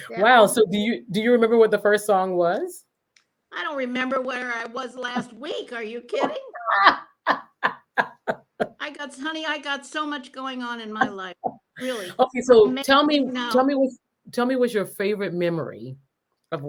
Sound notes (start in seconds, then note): 6.6 laughs